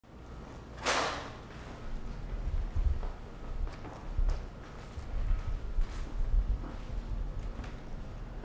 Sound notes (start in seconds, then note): 0.8 door unlatches; 1.4 footsteps approach